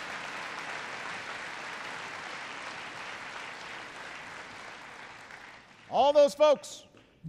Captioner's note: applause